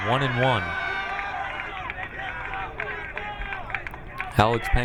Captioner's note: crowd cheering